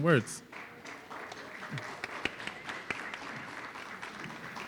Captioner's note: audience applauding